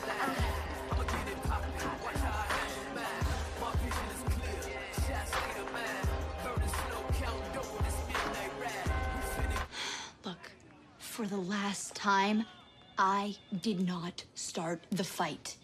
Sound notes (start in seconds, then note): 9.7 sighs